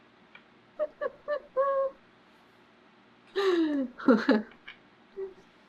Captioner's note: laughs